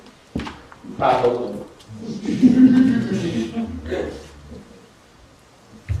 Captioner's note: laughter